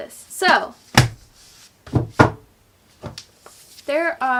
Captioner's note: thumping